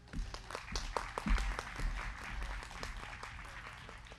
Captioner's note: crowd clapping